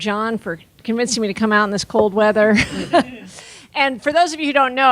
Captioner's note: laughing